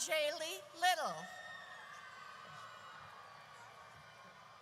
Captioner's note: audience cheers